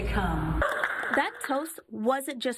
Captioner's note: clapping